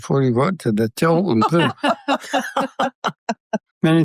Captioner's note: laughter